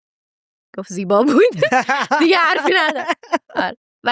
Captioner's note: laughs